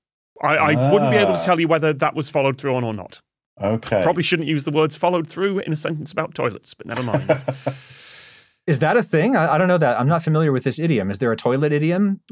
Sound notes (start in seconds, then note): 6.9 chuckles